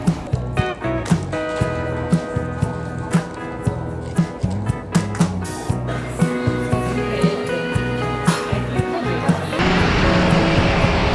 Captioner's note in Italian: Applauso